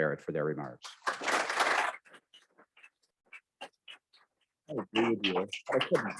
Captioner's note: audience clapping